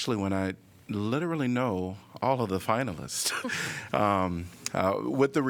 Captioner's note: laughter